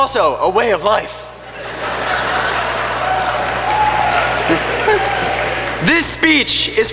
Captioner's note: laughter and clapping